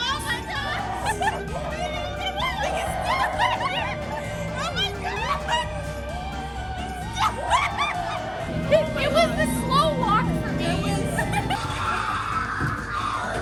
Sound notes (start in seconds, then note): 2.9 screaming and laughing